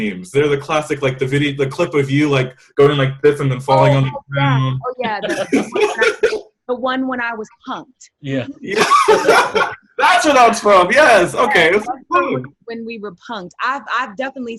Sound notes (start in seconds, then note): 5.3 laughter drowns out; 8.3 loudly laughing